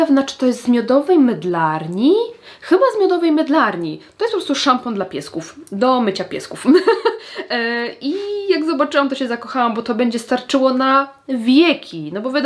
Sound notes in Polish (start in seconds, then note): 6.6 śmiech